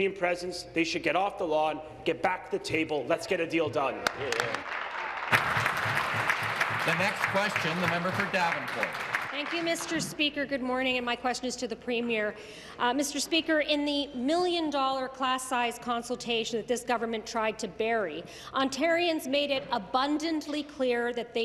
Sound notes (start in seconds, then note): 8.6 applause